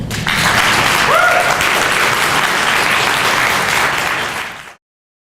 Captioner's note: applause applause; audience applause